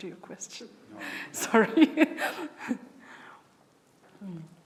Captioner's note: chuckles